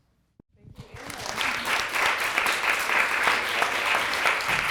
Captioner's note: audience applause